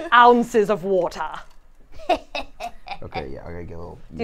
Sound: cackles

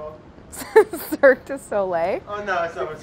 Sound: laughs

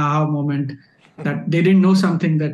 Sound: chuckles

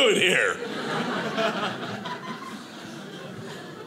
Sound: audience laughing

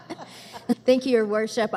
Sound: laughter

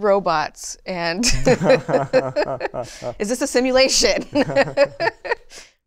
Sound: laughter

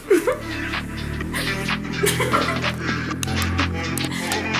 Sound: both giggling; pop music

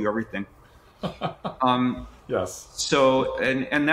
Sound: laughing

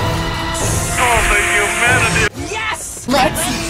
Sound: both hissing

